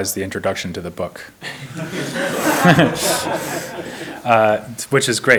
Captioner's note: all laughing